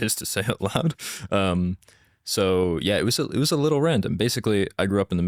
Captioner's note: laughs